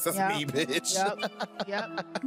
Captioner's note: laughter